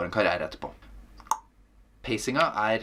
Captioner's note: clicks tongue